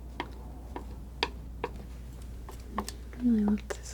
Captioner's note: scratching